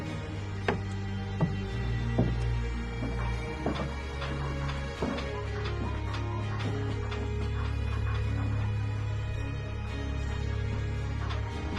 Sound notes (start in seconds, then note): 3.1 footsteps; 6.4 bed squeaking